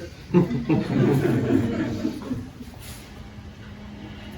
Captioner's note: laughter